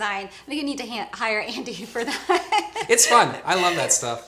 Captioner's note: laughs